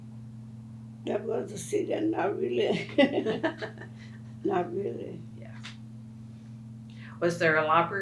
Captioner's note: laughs